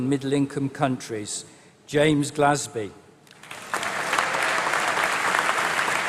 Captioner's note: applause